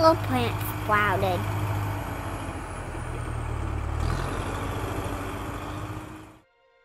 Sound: sound of tractor revving engine

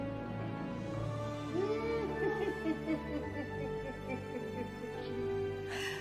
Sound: first doctor chuckles

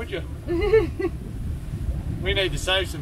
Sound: laughs

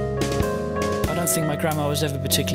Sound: voiceover

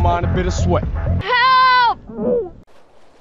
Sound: gurgle

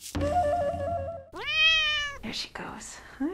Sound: cat meows

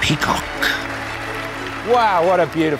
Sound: audience applauding

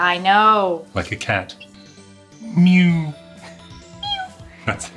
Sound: mewing; chuckles

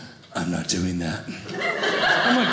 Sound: audience laughing

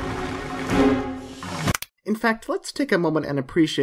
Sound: dramatic music; remote control clicks

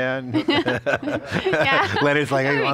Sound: laughter

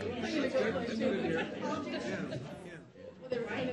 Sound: audience chatters; speaking faintly

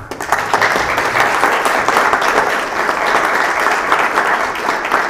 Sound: applause

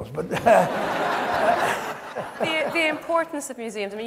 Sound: audience laughs

